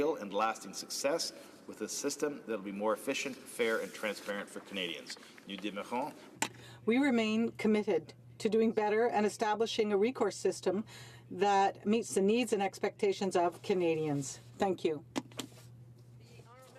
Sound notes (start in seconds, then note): 10.1 speaking French